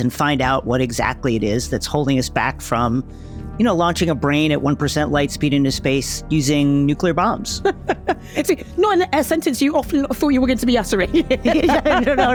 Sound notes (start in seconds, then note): 7.6 laughs; 11.2 laughs